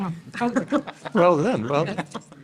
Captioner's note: panel laughing